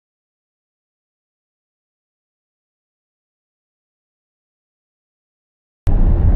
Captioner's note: muted the sound due to copyrights